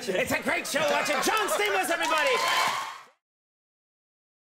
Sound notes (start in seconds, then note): 3.4 audience cheering